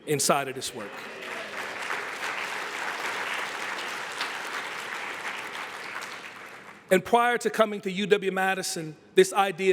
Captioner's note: applause